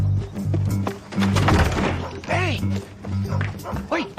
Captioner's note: dog barks